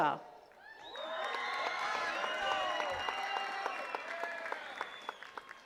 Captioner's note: attendees cheering and clapping